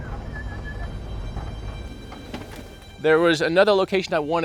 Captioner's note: whistling